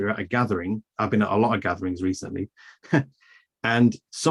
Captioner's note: chuckles